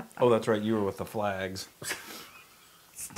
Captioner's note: laugh